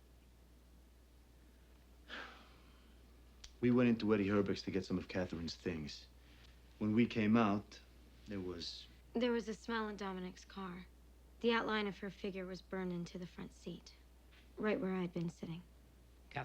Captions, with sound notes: - (sighs) We went into Eddie Herbek's to get some of Katherine's things. When we came out, there was... - There was a smell in Dominic's car. The outline of her figure was burned into the front seat. Right where I'd been sitting.